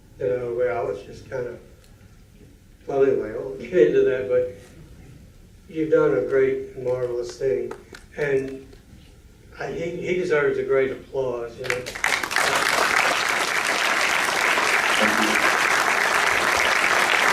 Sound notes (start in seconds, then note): 4.2 speaks softly; 11.6 applause